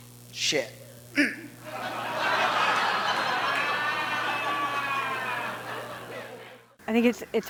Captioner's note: grunts; audience laughs